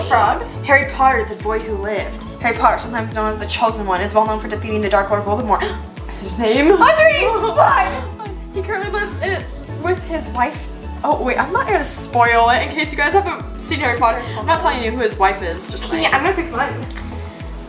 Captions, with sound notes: - Chocolate frog? - Harry Potter, the boy who lived. Harry Potter sometimes known as The Chosen One, is well known for defeating the Dark Lord, Voldemort, (gasps) I said his name! - Audrey, why? - He currently lives with his wife, oh, wait, I'm not gonna spoil it, in case you guys haven't seen Harry Potter, I'm not telling you who his wife is, just like. - I'm gonna pick mine.